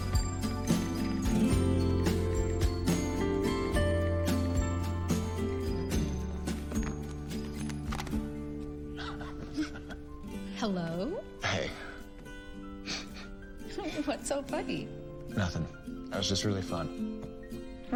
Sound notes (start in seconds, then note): 8.9 lauaughing